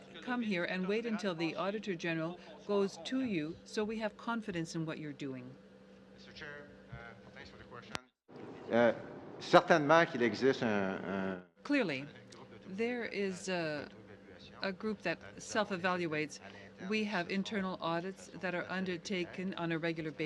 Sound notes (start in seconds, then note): 14.7 speaking French